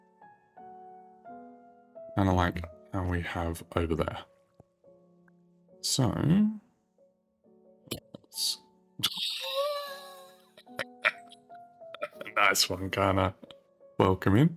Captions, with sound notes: And we have over there. So, let's just. (laughing) Nice one, kinda welcoming.